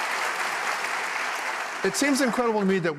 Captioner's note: applause